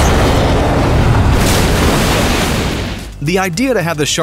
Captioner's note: explosion